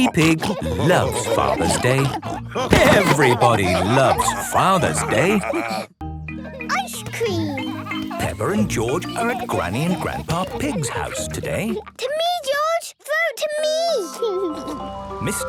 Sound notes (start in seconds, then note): 3.5 laughter; 14.0 ice cream music playing